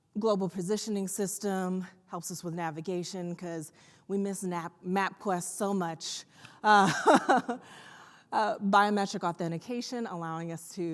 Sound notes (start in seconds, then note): 7.1 laughs